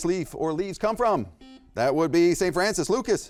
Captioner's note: buzzer beeps